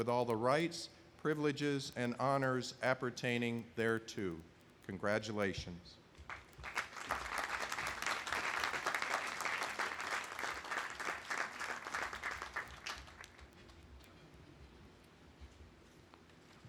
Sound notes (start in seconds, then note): 6.3 audience applauding